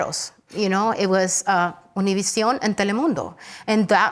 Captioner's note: speaks Spanish